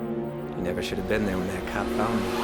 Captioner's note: sparks